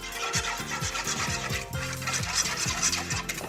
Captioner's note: whisking